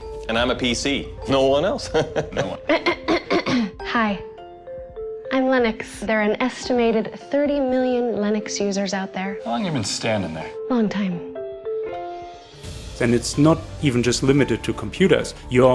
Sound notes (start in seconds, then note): 2.8 woman clears throat